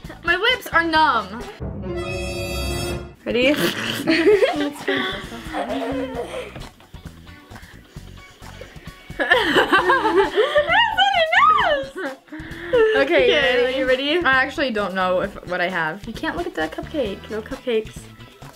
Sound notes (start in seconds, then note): 1.5 ominous music; 3.4 laughs